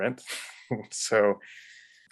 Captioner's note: man laughs